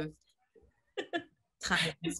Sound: laughs

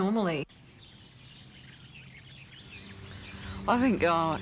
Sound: birds chirping

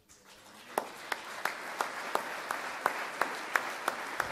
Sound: applause

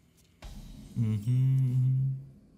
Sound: humming

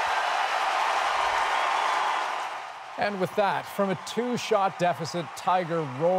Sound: cheers and Applause

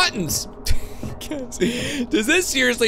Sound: laughs

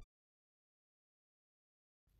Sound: silence

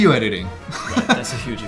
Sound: laughing

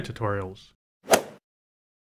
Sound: swoosh

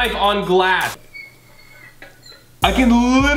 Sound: metal scraping glass sound

